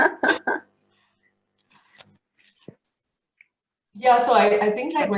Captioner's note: both laughing